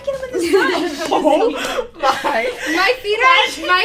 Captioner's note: laughing